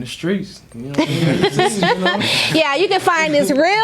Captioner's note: Mary laughing